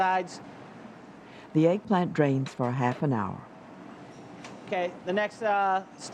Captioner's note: voiceover